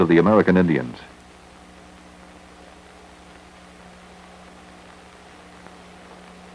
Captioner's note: static